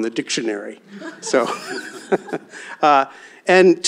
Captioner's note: laughter